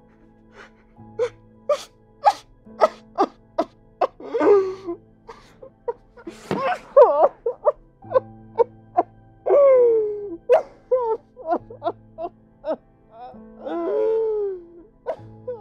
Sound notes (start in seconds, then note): 2.8 Omar crying